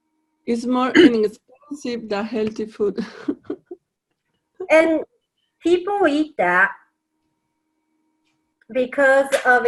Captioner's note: chuckle